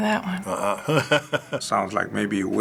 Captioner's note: chuckling